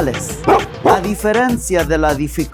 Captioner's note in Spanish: perro ladrando